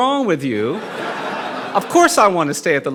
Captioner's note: audience laughing